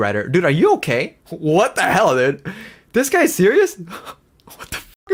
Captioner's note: laughs